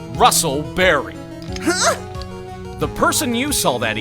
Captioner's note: grunts!